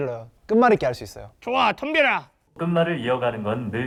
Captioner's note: confident